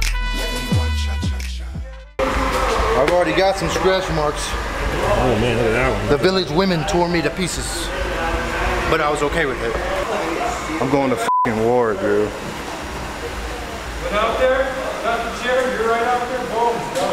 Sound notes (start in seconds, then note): 11.2 beep